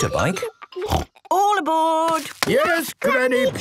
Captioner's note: snort